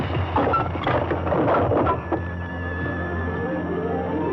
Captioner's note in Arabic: تحطم